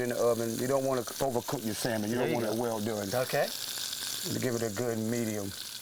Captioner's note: laughs